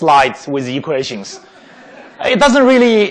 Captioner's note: laughing